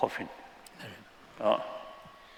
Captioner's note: non-english